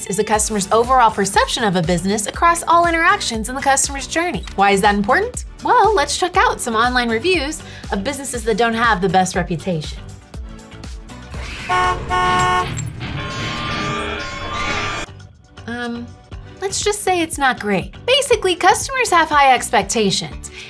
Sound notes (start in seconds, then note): 11.4 car horn blares; 11.9 glass shattering; 13.5 chaotic music; 13.5 sirens blaring